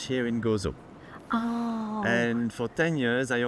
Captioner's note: gasps